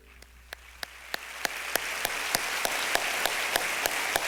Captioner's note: applause